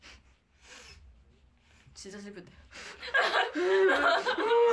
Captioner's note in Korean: 꺼이꺼이